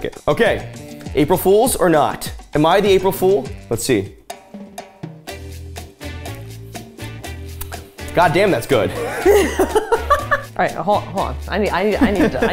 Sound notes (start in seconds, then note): 4.6 upbeat music; 8.9 laughing